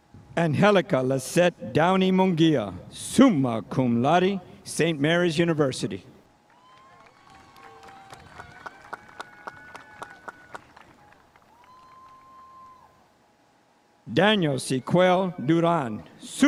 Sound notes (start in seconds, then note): 6.4 spectators applauding